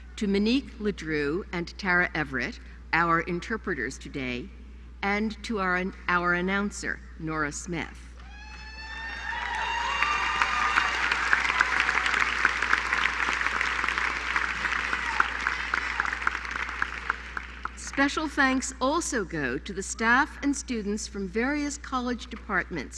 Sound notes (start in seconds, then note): 9.0 applause